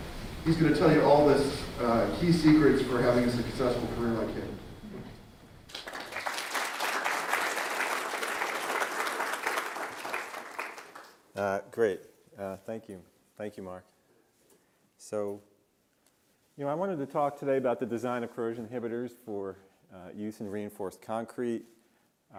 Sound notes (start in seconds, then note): 5.6 audience Claps